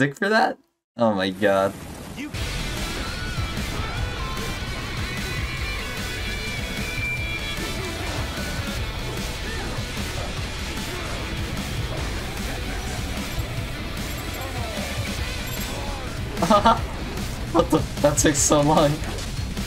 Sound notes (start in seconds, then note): 15.6 chuckles